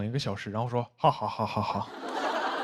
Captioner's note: laughing